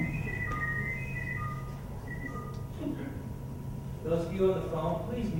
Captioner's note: loud intercom continues